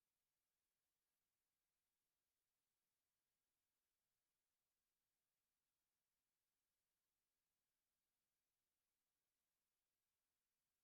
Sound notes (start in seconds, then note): none